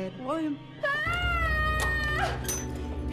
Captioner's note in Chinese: 尖叫聲